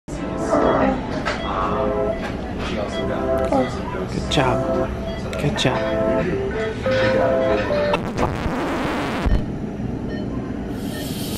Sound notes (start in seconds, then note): 0.3 beeping in background; 7.9 rewinding sound